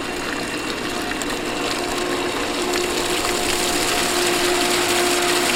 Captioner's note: water gushing